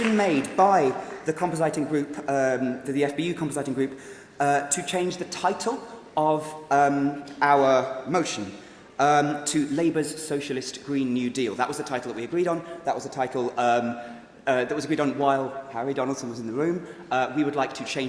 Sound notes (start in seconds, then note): 3.0 applause